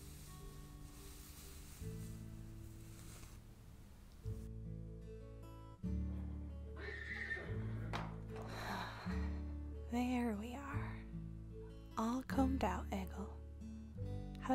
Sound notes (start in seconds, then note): 2.2 Brushing ends. Egil neighs; 8.4 sighs